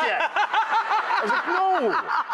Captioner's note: laughing